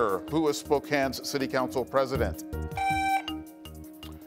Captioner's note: buzzer beeps